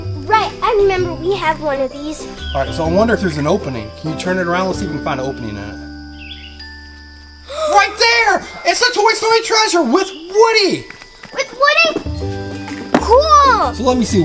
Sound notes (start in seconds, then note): 7.4 gasps